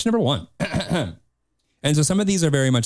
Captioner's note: clears throat